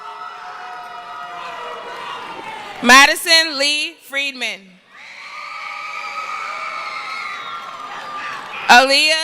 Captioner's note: cheering; screaming; cheering